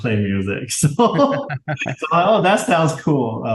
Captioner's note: both laugh